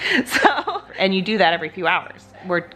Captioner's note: laughs